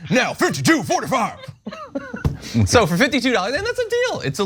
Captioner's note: laugh